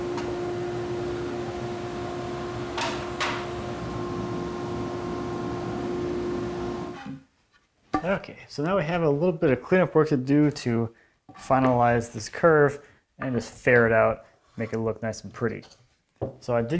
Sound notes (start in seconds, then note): 2.7 off-cut wood clattering